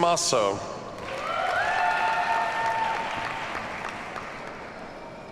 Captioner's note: audience cheers and applauds